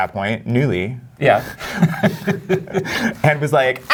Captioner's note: laughs